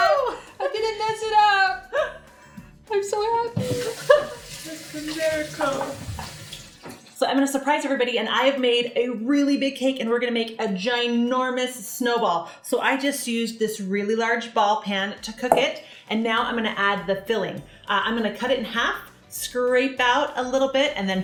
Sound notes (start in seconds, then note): 1.7 laughs; 3.6 laughs